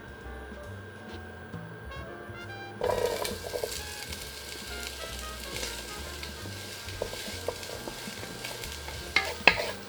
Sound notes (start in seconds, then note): 2.9 sizzling